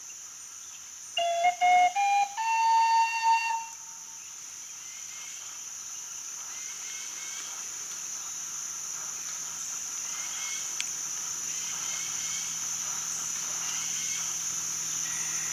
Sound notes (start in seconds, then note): 1.2 four rising flute notes; 5.5 birds and bugs chirping